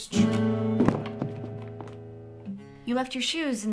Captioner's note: shoes thudding